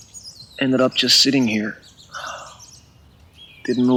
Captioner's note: sighs